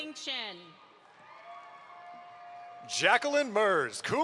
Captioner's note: audience applauds